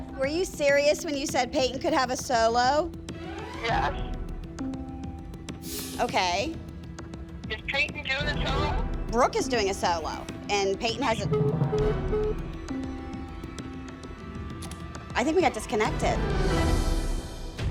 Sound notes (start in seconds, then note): 3.6 on phone; 7.0 on phone; 11.1 phone beeping